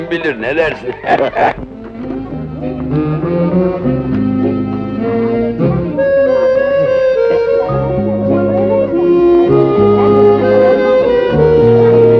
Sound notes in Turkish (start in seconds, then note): 8.9 Çocuk yuvası ortam gürültüsü